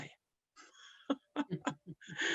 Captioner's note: laughter